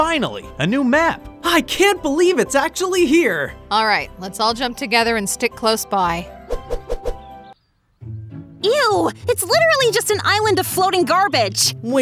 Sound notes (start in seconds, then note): 6.4 air whooshing; 8.0 upbeat calm music